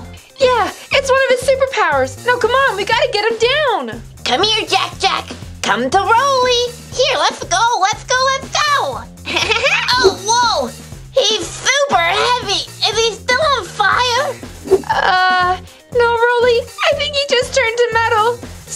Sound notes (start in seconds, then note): 9.3 Jack-Jack giggles